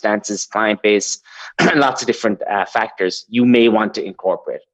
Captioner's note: coughs